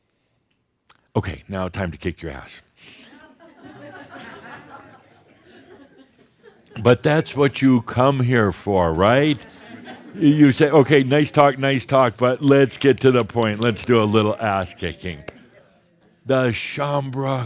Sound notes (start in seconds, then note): 5.4 some chuckles